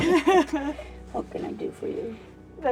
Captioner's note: sobbing